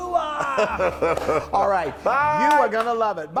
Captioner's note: laugh